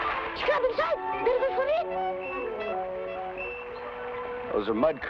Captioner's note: boy speaking in Tagalog